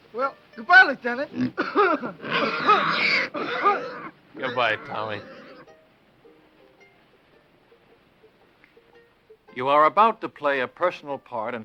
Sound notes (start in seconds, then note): 1.3 pig squealing; 1.4 Tommy coughs